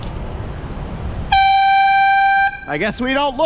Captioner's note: airhorn